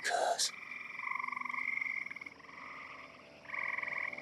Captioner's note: frog and insect noises continue; eerie music